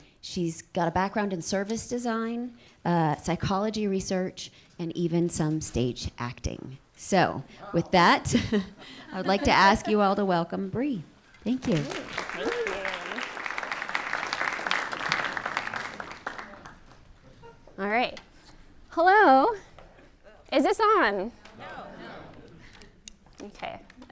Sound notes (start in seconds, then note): 11.6 applause